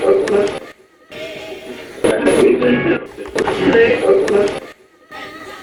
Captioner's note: radio voices